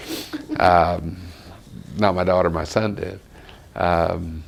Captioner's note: laughter